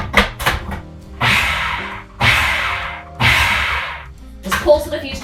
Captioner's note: food processor blending